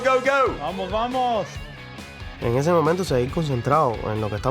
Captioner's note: speaks Spanish